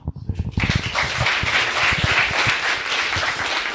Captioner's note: crowd applauding